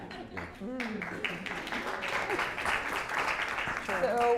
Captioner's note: applause